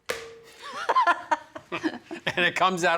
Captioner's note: laughing